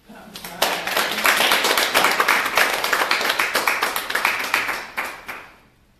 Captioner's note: applause